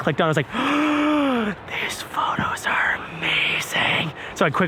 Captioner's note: gasps